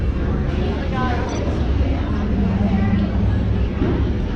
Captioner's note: Beeping sounds from Disney Play App